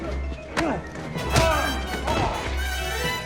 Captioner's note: grunting